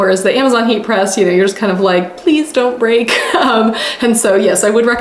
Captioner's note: laughing